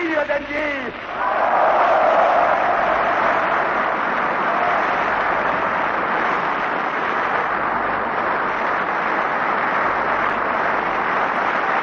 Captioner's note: applause